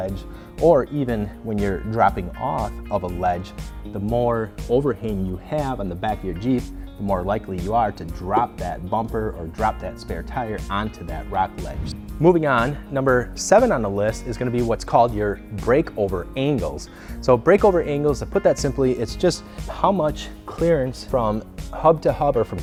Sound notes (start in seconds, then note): 11.5 whoosh